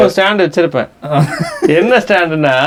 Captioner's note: laughs